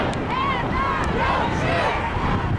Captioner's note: crowd